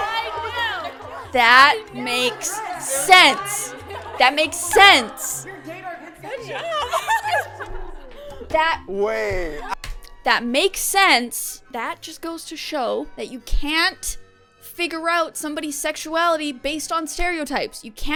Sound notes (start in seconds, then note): 6.3 laughter